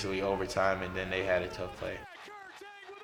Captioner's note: announcers shouting